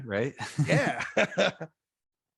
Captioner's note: laughs